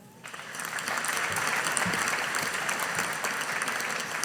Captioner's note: audience applauding